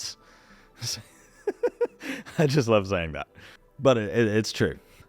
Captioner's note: laughs